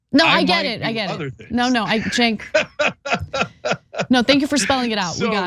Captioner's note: laugh